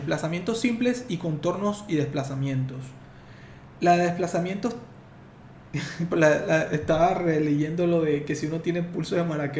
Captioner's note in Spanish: risas